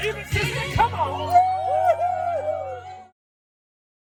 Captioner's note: cheering